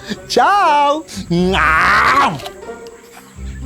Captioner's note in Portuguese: Grito